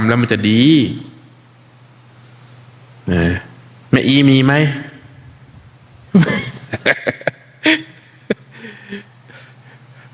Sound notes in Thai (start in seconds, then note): 6.1 เสียงหัวเราะ